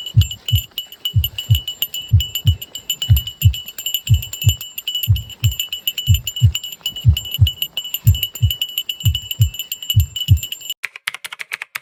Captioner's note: ringing the bell non-stop